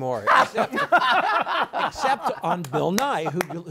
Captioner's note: men laugh